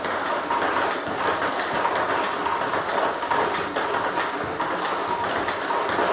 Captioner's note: ball ping pong hitting continues